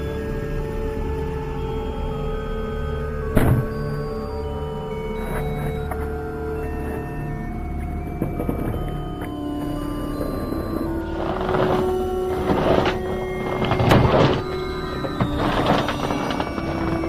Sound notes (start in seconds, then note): 3.4 thump; 8.1 trees being pushed over, yeti noises